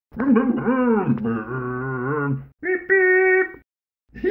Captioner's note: Scruff makes scooter noises